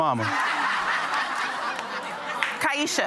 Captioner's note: audience laughs